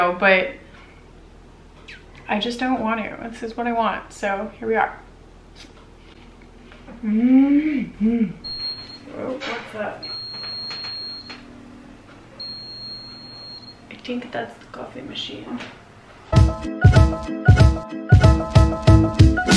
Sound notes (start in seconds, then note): 6.9 groaning; 8.4 beeping; 16.3 upbeat music